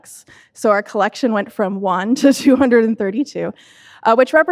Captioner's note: laughs